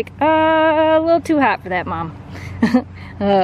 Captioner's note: laughter